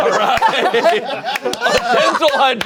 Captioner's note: everyone laughing